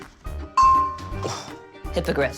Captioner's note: dink!